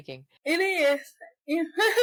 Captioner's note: laughter